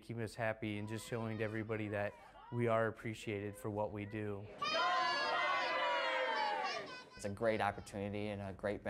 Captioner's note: cheers